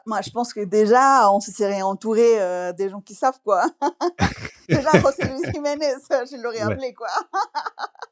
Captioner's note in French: rires